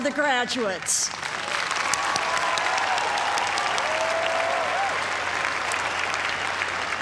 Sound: cheers and applause

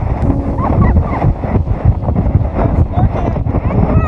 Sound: wind whooshing; laughing

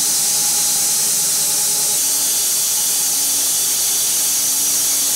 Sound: saw whirring continues

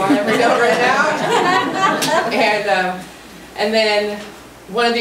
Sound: group laughs

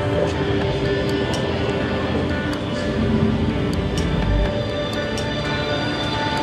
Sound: universe sound effects in the museum that grow louder as you enter the globe

